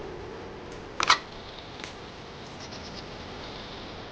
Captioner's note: gun cranking